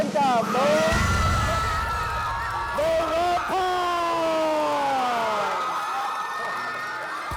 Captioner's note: cheers and applause